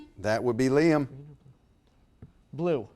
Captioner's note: whispers